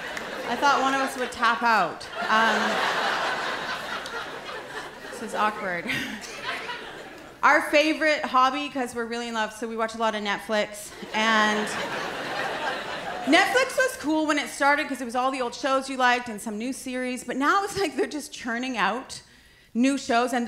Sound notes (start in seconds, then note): 2.0 laughter